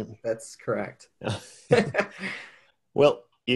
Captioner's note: men laughing